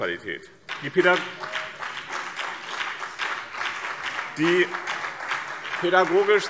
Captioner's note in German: Beifall BÜNDNIS 90/DIE GRÜNEN und CDU